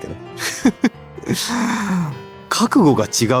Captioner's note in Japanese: 笑い